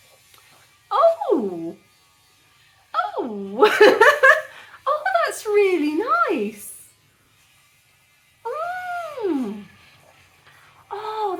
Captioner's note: laughing